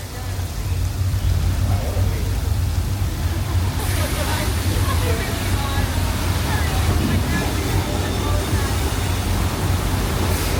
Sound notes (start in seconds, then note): 1.6 water gushing